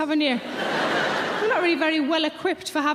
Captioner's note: audience laughing